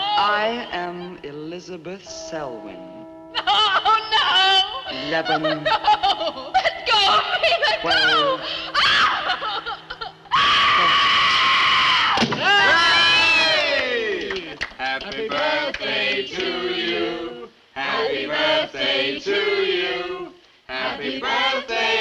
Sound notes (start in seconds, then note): 10.2 scream; 12.2 thunk!